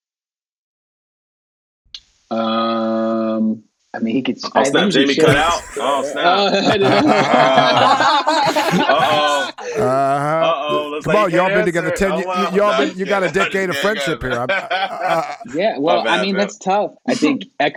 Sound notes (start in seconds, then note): 6.5 all laughing